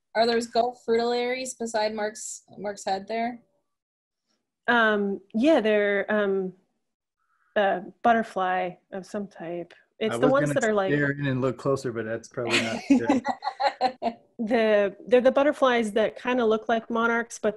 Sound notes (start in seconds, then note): 12.4 laughing